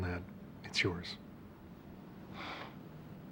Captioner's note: exhales